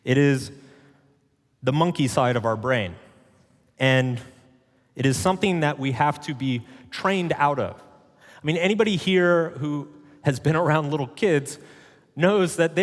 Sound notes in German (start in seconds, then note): none